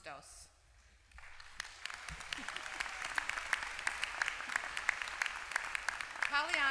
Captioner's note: applause